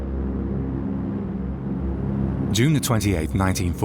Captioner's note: plane roaring